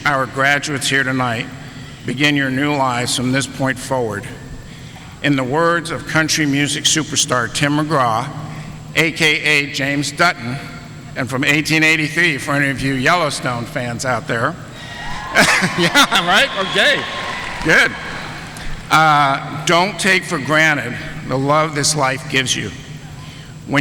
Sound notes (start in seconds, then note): 14.7 audience cheering